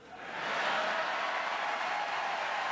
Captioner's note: applause